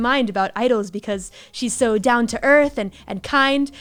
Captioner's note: none